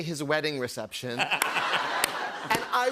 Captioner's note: laughter